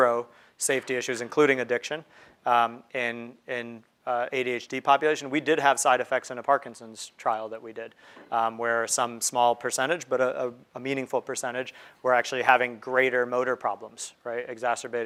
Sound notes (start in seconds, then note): none